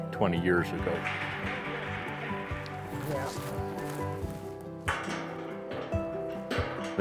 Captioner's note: metal clanking